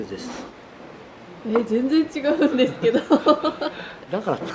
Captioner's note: laughs